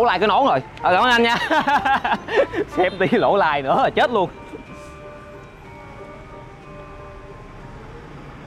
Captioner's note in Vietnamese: Tiếng cười